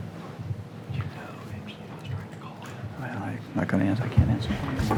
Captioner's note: speaking faintly